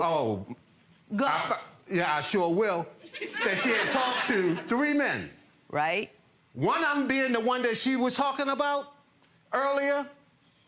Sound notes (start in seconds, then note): 3.1 audience laughs